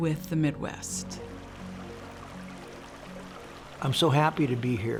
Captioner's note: pleasant music; water sloshing